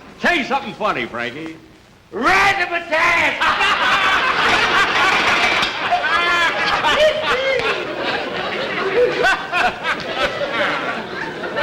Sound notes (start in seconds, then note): 3.2 everybody Laughing